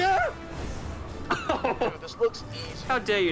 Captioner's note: chuckles